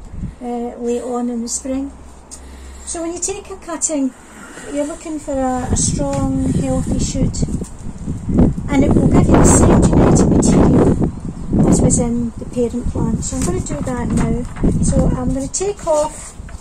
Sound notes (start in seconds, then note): 8.3 wind noise